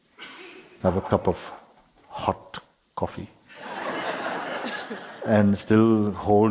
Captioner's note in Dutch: gelach